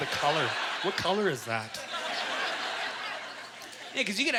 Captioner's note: audience laughter